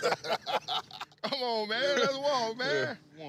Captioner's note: laughter